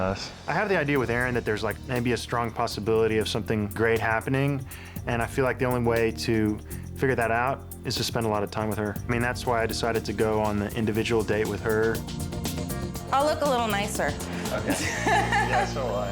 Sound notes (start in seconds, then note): 14.5 laughs